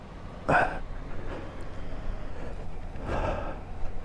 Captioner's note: grunting